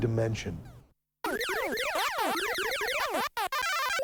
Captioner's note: video game sounds